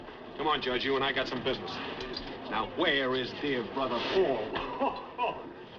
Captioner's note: chuckles